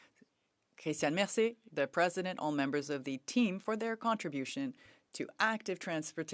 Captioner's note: speaking French